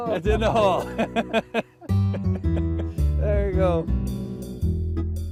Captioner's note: laugh